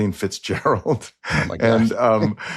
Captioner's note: chuckles